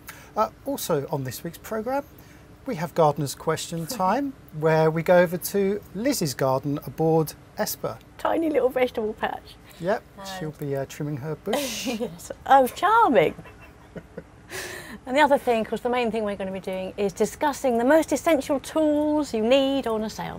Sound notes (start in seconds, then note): 13.2 laugh